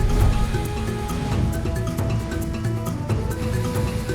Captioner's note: none